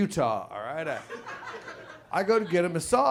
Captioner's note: audience laughs